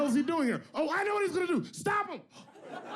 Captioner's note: yells loudly